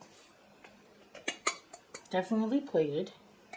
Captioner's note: tap, tap, tap